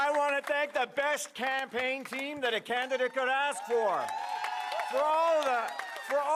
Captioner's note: applause & Cheering